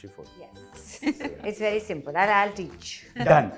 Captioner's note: Sarika chuckles